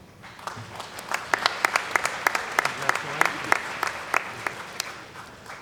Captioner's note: applause